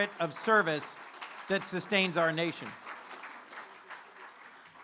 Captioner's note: applause